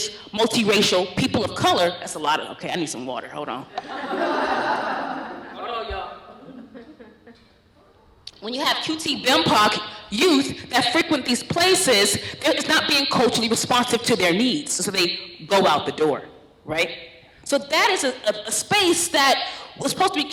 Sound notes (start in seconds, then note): 3.7 laughter